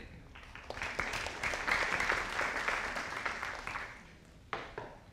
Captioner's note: audience applauding